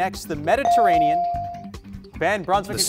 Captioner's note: bell rings